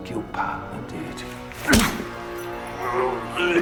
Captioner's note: smacking; grunting